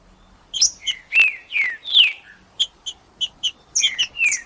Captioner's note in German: trinca ferro cantando